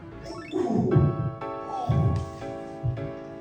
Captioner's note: sounds of Pain